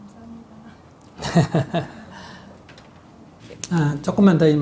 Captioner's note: laughter